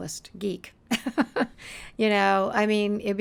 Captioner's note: chuckling